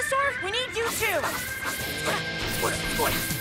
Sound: grunting; action music

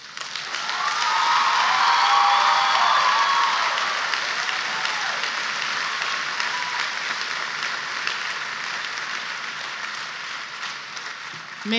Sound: applause

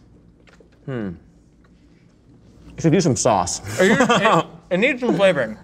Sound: laughs

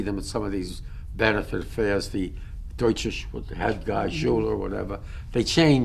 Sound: german

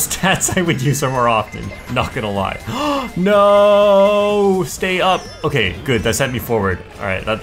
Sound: gasps

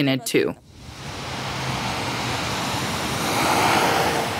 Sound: passing car

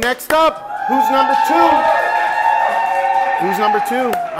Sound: cheering

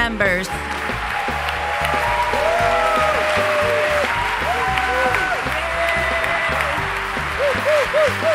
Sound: audience cheers

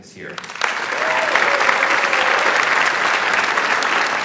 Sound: audience applauds

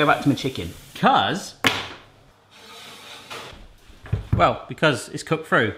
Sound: rack thumps

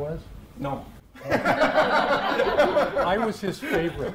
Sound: audience laughing

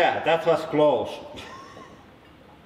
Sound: chuckles

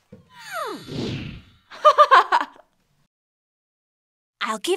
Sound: laughs

